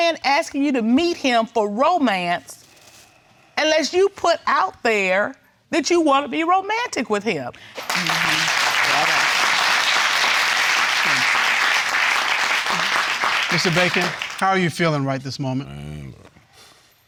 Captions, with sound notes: Why is a man asking you to meet him for romance unless you put out there that you want to be romantic with him? (COURTROOM APPLAUDING) Mr. Bacon, how are you feeling right this moment?